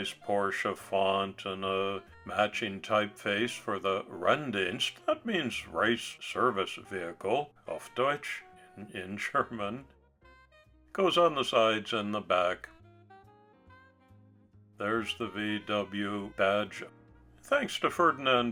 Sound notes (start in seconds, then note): 8.9 in German